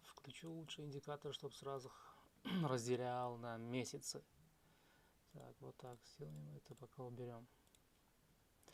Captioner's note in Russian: откашливается